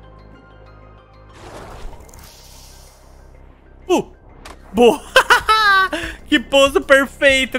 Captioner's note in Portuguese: risos